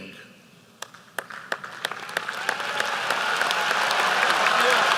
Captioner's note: applause